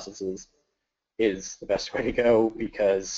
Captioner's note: laughs